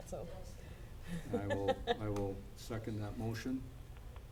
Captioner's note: laughing